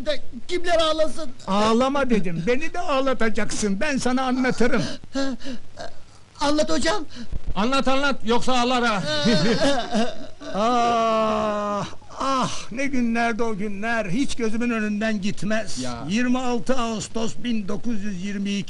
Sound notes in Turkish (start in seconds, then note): 8.9 gülüşü